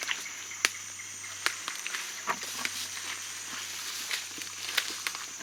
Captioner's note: dry foliage crunching